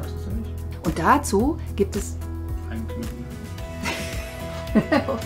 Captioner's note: laughter